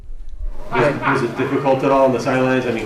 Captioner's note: loud laughing